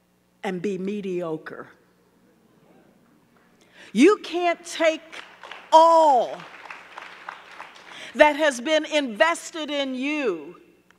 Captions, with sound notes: and be mediocre. You can't take all (audience clapping) that has been invested in you